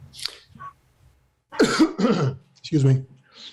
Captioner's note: coughs